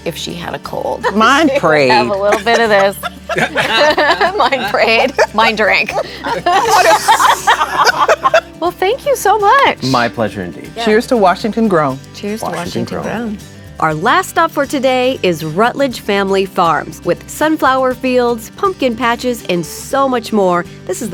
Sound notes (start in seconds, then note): 1.7 laughs; 3.7 laughs